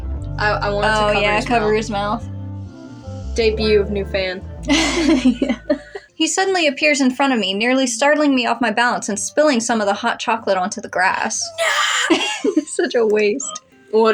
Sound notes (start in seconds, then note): 0.0 sensual Music; 4.6 chuckle; 4.6 laugh; 11.4 laugh